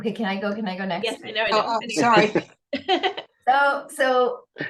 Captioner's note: laughs